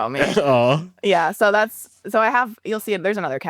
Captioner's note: awing